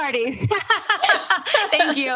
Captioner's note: laughter